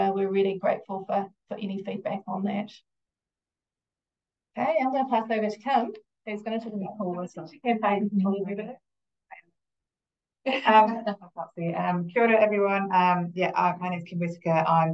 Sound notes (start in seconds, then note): 10.7 both murmuring